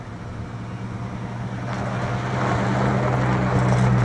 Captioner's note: engine noise, gravel crunching